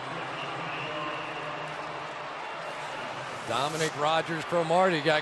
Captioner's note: pa announcement